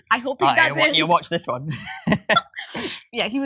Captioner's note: laughs